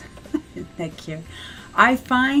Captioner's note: laughs